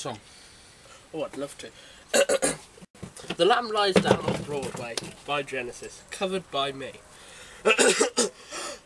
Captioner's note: clears throat